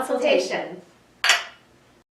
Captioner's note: clinking mugs